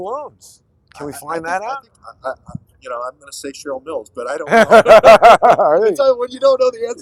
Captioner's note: laughter